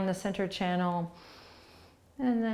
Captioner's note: breathing